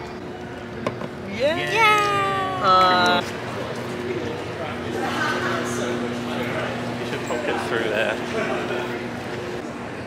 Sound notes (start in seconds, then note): none